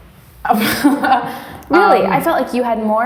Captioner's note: laughs